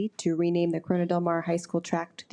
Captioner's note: none